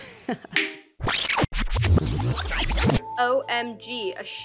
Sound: laughs; rewinding

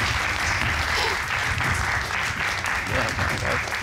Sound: suppressed chuckle

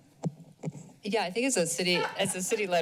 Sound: laughter

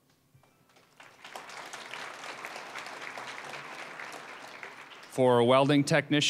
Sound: applause

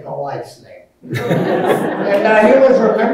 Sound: everyone laughing

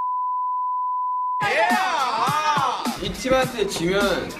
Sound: shout

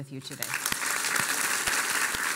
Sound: applause

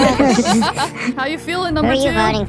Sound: everyone laughs

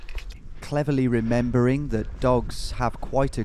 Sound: voiceover

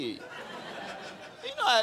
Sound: crowd laughing

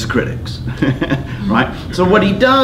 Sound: chuckles

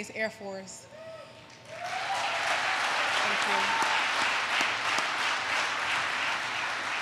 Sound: applause

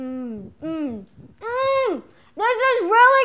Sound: groans

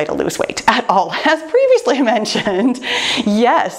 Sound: laughs

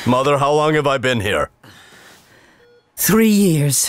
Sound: sighs

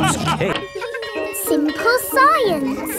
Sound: children laughing; bell tolling

